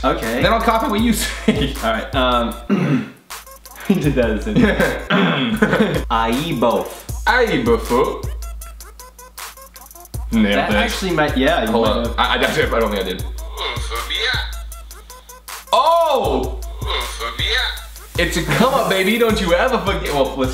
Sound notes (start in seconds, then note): 2.6 clears throat; 4.5 laughs; 5.0 clears throat